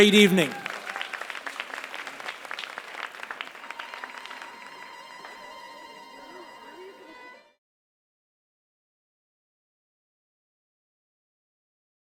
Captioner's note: applause